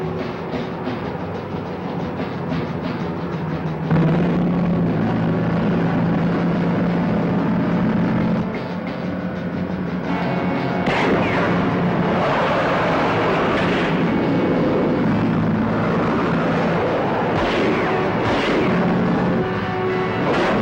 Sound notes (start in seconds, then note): 0.2 dramatic music; 3.8 truck roaring; 8.9 suspenseful music; 10.8 gunshot pops; 12.6 truck and car wheering; 17.3 gunshot pops